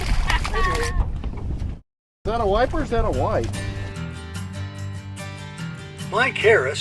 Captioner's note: anglers talking